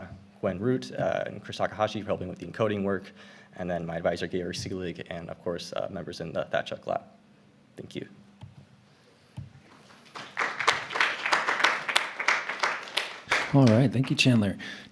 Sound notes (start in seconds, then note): 9.7 applause